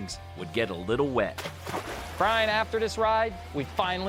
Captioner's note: water splashing